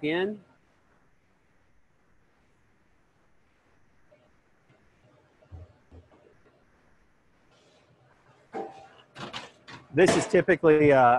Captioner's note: silence